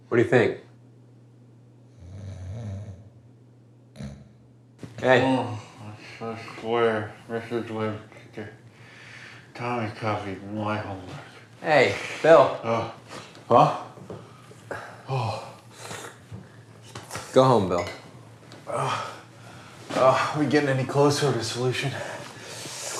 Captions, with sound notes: - What do you think? (Bill snores) Hey. - Ah, I swear Mrs. Webster, Tommy copied my homework. Ah! - Go home, Bill. - Ah, are we getting any closer to a solution?